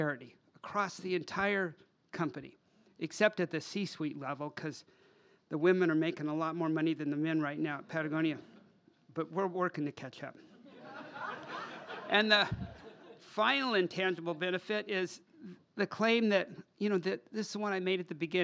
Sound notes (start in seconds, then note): 12.0 laughter